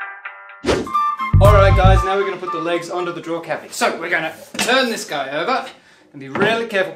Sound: woosh

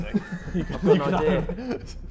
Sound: Sidemen laughing

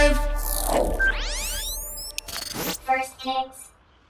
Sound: words whooshes; computer Voice

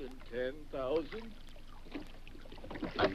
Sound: water splashes; oars thudding

